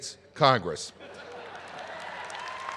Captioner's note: laughter; applause